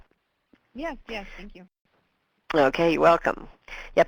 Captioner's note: voiceover